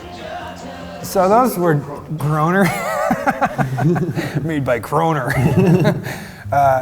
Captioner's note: laughing